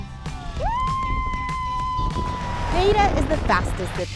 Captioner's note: screaming